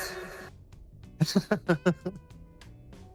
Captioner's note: laughs